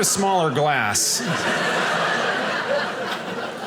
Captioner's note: audience laughing